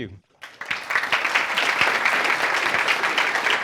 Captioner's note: applause